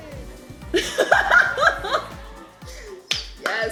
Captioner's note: laughing